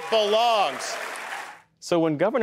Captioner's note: cheering and applause